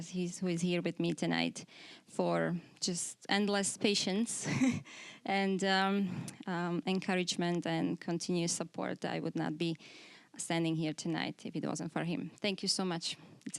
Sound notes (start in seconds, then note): 4.4 chuckling